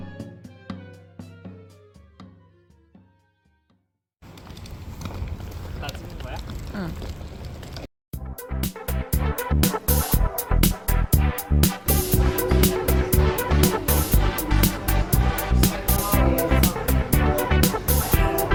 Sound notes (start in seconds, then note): 13.6 Italian